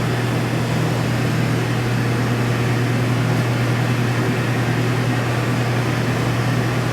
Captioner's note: ambient low-frequency electric noise